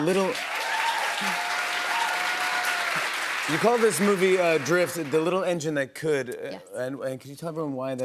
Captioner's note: cheers and applause